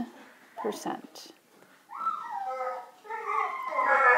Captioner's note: dogs crying in background